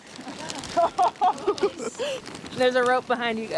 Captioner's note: students laugh